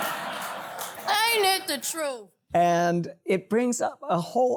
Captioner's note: laughter